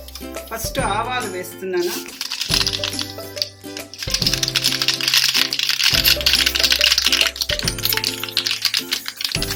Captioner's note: we love that sound of crackling mustard <3